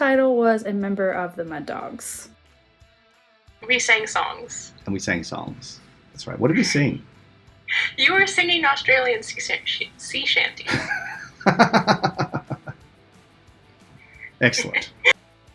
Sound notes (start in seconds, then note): 10.6 laughs